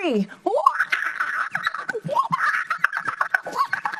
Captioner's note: chattering